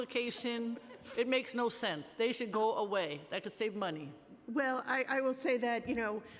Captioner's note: laughter